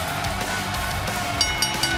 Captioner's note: bell ringing